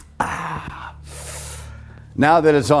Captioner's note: sharply inhaling